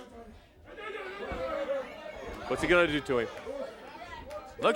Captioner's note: crowd chatter